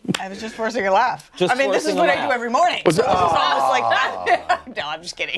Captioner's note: laughter